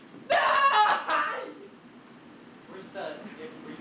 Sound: silence

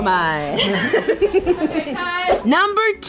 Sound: laughter

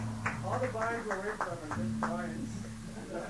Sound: laughs

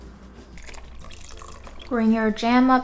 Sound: water pouring; sugar shaking

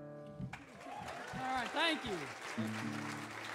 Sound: audience cheering

